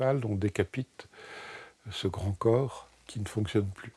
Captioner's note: French spoken audio